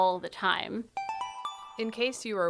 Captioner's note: chime